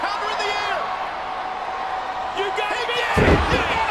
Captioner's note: crowd shouting